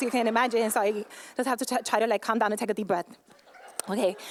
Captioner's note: laughter